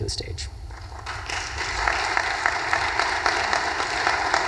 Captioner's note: audience applause